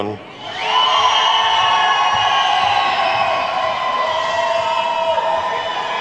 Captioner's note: attendees whooping and clapping